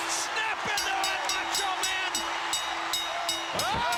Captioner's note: bell ringing